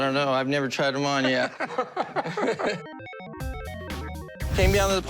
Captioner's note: laughter